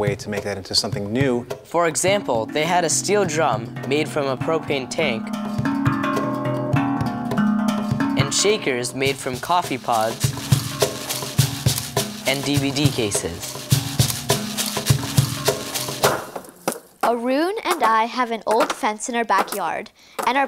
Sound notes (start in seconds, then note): 10.5 shakers rattling; 15.0 loud banging